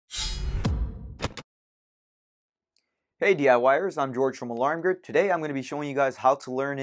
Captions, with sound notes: [SLAM] Hey, DIYers. I'm George from Alarm Grid. Today, I'm going to be showing you guys how